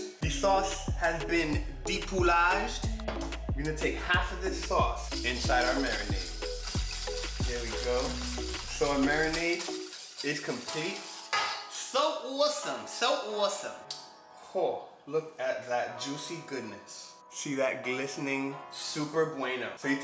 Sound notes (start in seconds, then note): 5.0 whisking